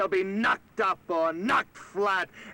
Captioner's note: none